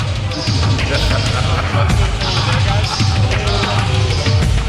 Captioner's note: man laughing manically; lively tribal music